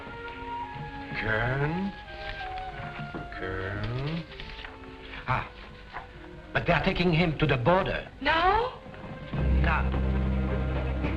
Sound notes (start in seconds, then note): none